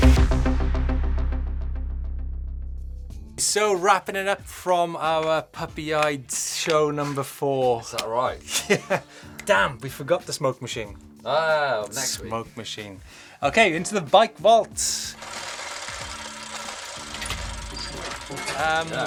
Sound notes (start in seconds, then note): 0.2 electronic music; 8.4 laughs; 9.3 snaps; 15.2 gears click